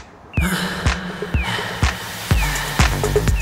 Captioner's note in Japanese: 息切れ